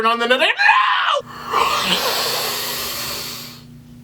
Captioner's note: inhales angrily